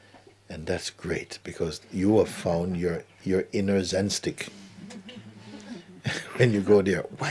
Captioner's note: laughter